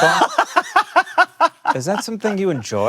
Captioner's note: laughs loudly